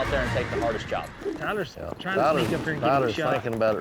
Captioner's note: all chattering